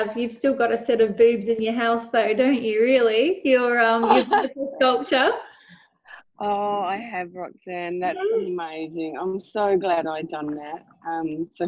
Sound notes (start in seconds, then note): 4.0 laughing